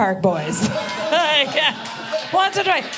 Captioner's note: audience laughing